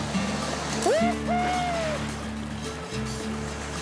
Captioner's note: hooting